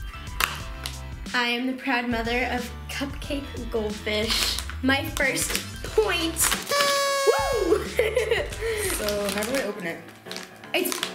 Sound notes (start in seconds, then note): 6.6 party blower honks; 7.6 laughs